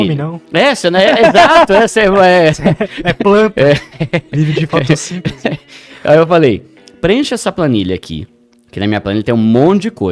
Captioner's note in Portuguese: risadas